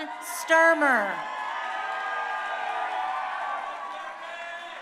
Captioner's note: crowd cheering